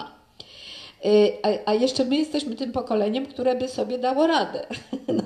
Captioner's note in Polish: śmiech